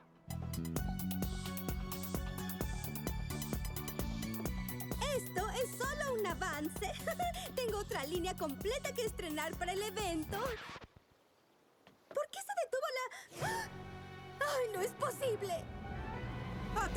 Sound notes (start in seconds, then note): 1.6 techno pop; 10.3 record scratch - music stops